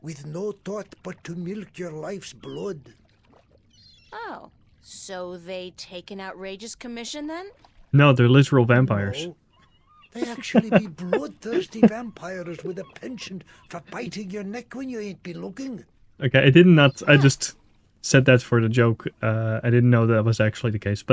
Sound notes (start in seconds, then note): 9.5 laughs